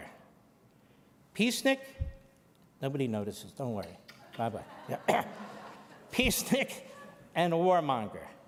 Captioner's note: audience laughing